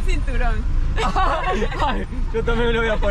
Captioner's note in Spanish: Risas